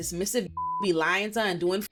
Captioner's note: beep